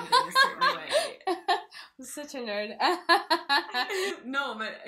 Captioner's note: laugh